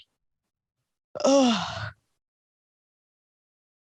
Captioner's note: yawning